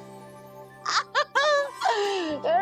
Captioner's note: laughing